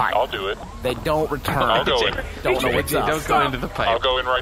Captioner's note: laughing